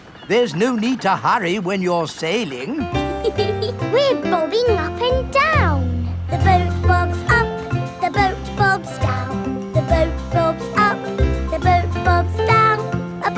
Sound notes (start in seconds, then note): 2.5 giggles